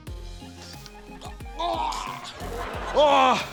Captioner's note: grunts